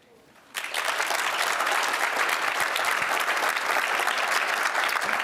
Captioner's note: applause